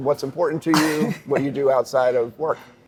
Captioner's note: laughs